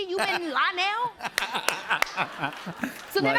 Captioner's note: laughter